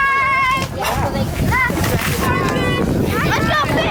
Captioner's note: kids chattering